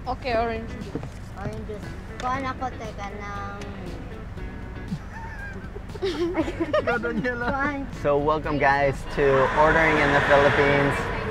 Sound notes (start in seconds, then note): 4.9 laughing